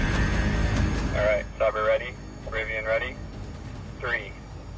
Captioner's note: man on radio